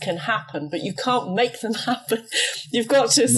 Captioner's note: laughs